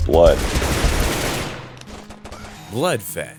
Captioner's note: gunshots